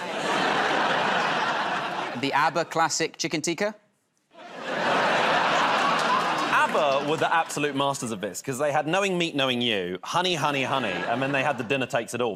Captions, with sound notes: -The ABBA classic, "Chicken Tikka." [ Laughter ] -ABBA were the absolute masters of this 'cause they had, "Knowing Meat, Knowing You," "Honey, Honey, Honey," and then they had "The Dinner Takes It All."